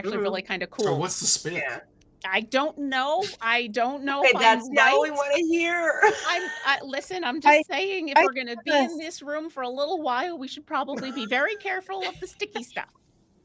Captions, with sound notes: - They're actually really kind of cool. - So, what's the spit? - I don't know. I don't know. But- - That's not what we wanna hear. (chuckles) - Listen, I'm just saying if we're gonna be in this room for a little while, we should probably be very careful of the sticky stuff.